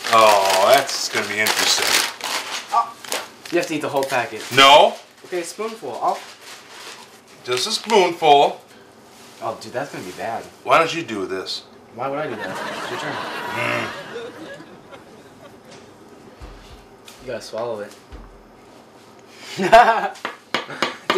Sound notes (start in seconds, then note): 12.2 audience laughs; 13.7 grunts; 20.0 laughs